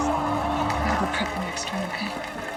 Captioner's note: audience groans